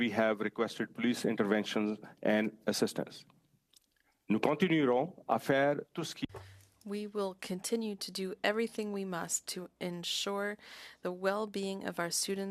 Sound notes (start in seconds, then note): 7.6 speaking French